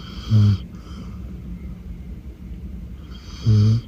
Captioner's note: dog snores